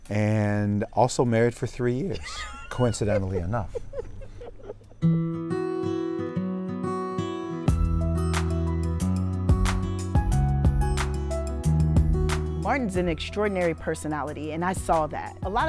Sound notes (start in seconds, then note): 3.8 laughs; 5.2 upbeat music